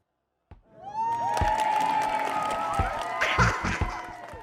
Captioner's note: audience cheers